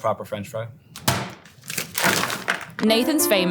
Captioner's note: fries pack thudding; plastic crinkling